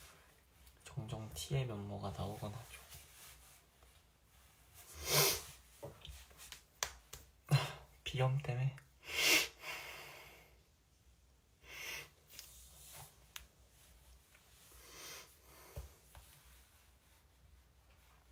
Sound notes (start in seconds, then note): 9.0 he sniffles